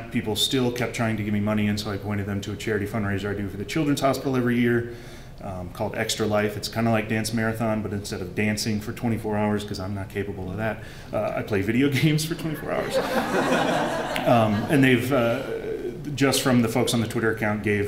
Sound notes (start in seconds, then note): 12.8 laughter